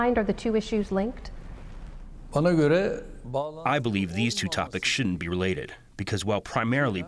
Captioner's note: through translator